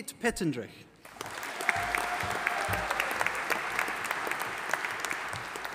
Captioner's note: audience applauding